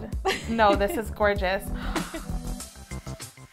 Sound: gasps

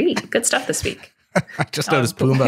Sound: chuckling

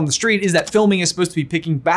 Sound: button clicks

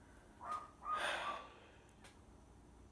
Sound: barking

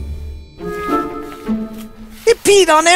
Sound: carpet squishing

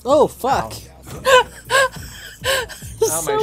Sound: laughs

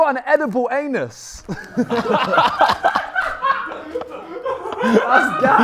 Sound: Sidemen laughing

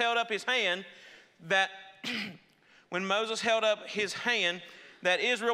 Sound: clears throat

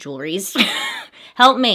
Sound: laughs

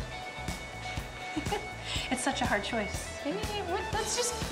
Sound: laughing

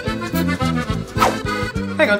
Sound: whoosh

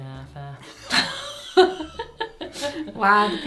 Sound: both laughing

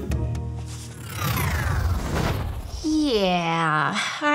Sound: gentle upbeat music; scene whooshes

